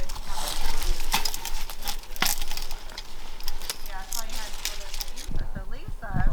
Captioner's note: equipment continues rattling